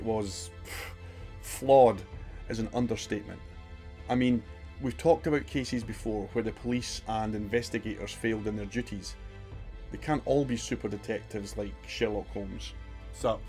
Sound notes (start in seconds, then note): 0.6 huff